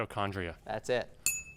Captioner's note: ding sound